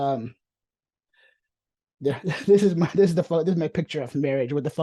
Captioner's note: chuckles